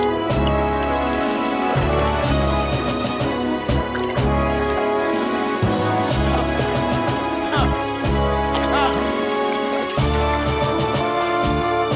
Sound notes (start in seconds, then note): 6.2 groaning